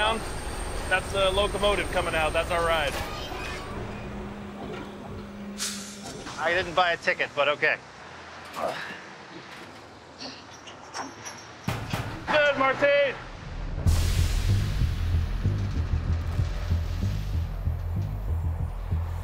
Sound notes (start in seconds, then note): 11.6 bangs on train